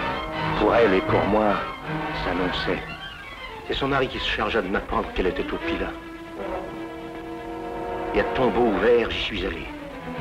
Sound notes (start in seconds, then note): none